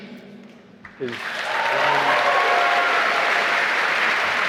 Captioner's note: applause